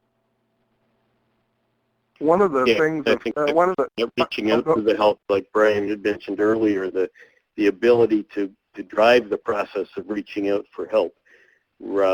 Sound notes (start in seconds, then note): 5.3 voiceover